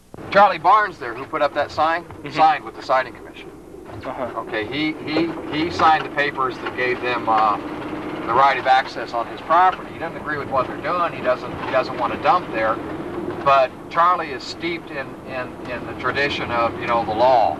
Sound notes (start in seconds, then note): none